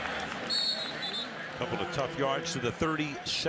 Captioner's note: whistle